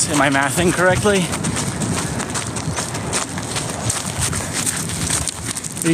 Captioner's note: footsteps on gravel path